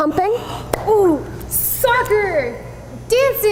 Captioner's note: excitedly